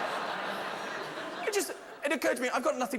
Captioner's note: laughter